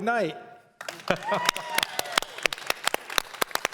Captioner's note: applause